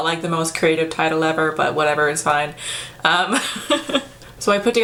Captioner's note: laughs